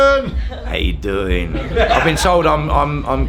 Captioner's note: group laughing